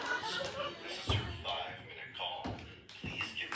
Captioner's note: over intercom